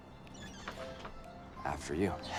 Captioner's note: door squeaks